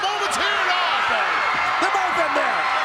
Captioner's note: audience cheers